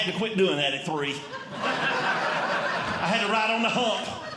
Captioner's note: audience Laughing